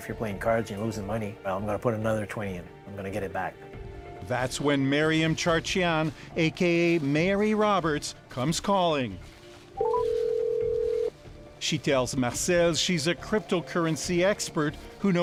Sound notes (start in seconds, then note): 9.8 phone ringing